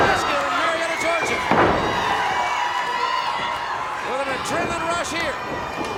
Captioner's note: body thuds